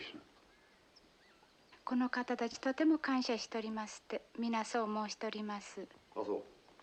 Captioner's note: speaking japanese